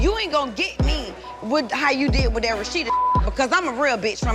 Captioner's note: beep